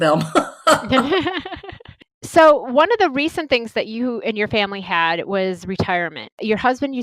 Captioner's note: laugh